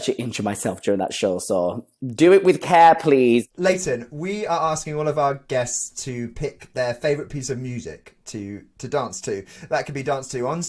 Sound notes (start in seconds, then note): none